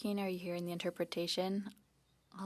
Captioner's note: speaking in French